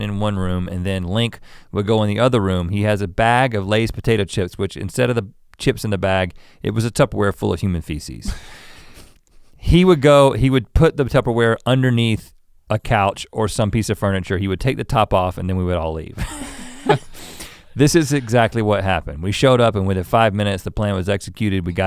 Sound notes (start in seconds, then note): 8.2 Link chuckles; 16.2 laughs